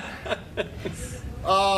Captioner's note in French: laughter